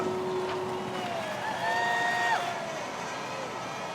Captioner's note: crowd cheering